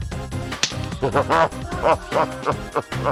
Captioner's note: laughs